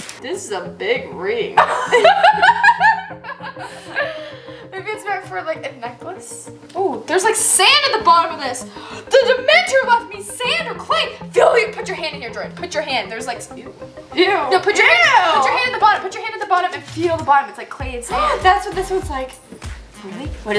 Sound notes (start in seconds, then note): 1.6 laughs